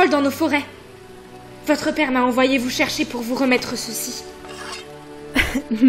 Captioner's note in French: bruit de lame dégainée